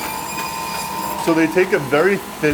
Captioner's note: blade buzzes